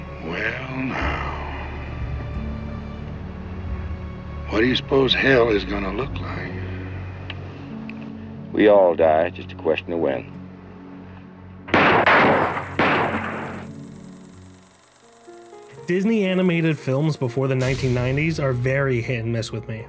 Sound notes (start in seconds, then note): 11.7 gun shots; 15.0 dreamy piano music